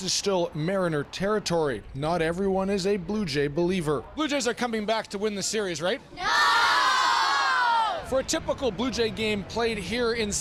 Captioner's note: cheering